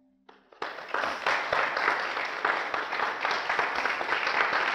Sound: audience applauds

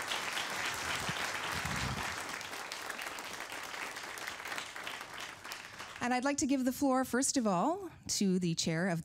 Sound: applause

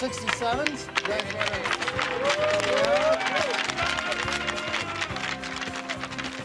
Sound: sticks clacking on ice, players cheering

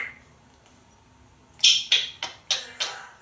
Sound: clicking sounds

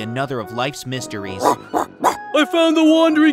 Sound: wolf barking

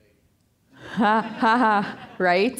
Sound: all laughing

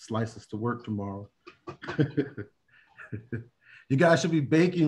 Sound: laughter

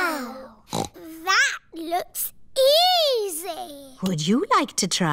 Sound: snorts

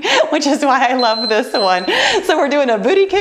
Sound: timer beeps

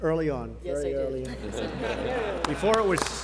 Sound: laughter

